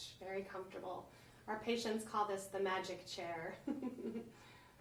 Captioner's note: chuckles